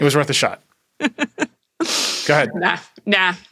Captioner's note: laughing